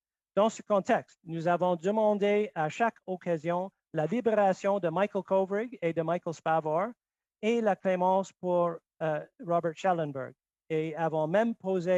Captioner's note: speaking French